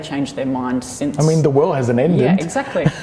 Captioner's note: giggles